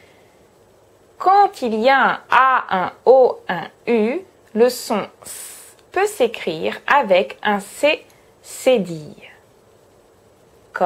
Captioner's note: français